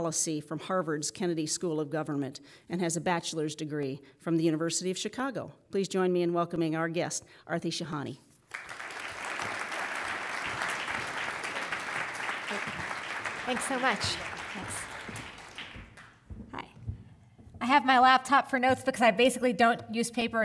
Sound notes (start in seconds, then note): 8.4 applause